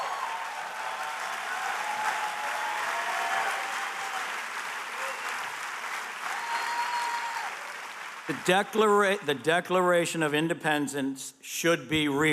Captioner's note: applause